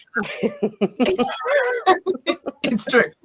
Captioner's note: laugh